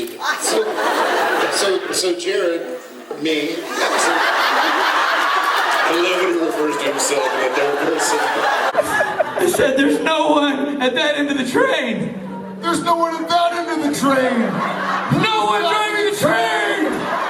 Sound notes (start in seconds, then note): 0.2 audience laughs; 13.9 audience laughs